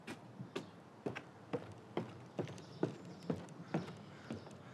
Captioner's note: footsteps thumping